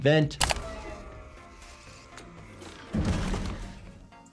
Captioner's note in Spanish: zumbido mecánico; Meagan golpeando